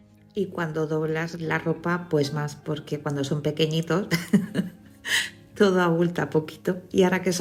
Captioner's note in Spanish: risas